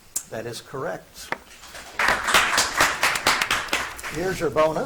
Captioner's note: audience applauds